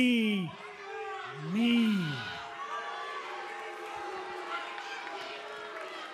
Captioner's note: cheers & boos